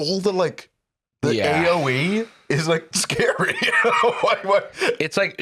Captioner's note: laughs